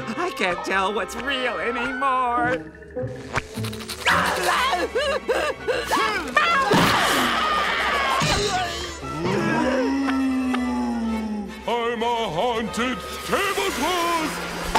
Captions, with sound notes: I can't tell what's real anymore. [whimpering] [screaming] Boo! I'm a haunted tablecloth!